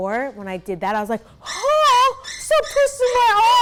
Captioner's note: shouts